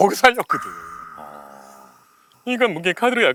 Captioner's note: tearful